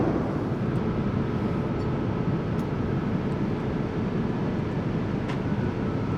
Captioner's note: aeroplane engine echoes quietly